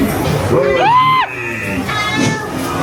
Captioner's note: guests screaming